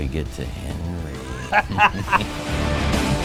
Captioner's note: laughing; intense music